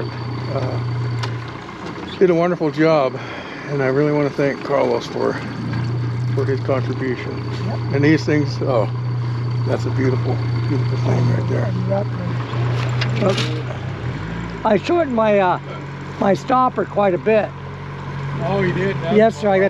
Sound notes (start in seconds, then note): 13.4 boat engine idling